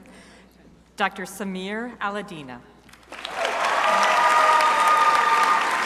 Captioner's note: crowd cheering